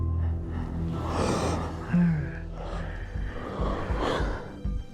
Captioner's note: gasping